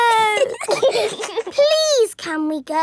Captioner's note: giggling